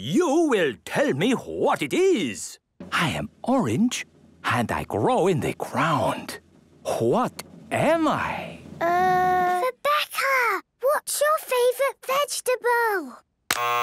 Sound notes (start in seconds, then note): 9.5 whispering